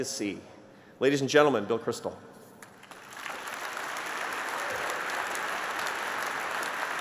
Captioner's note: applause